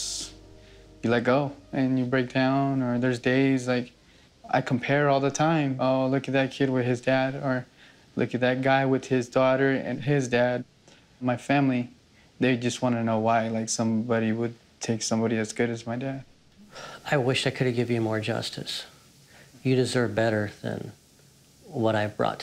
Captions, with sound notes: you let go, and you break down. Or there's days, like, I compare all the time, oh, look at that kid with his dad, or look at that guy with his daughter and his dad. My family-- they just want to know why somebody would take somebody as good as my dad. [sighs] I wish I could have give you more justice. You deserve better than what I've brought to the table